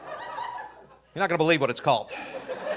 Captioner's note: audience laughing